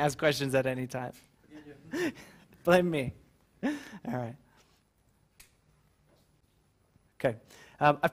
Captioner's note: laugh